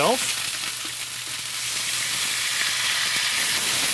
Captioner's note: sizzling continues